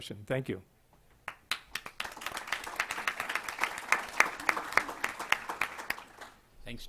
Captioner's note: applause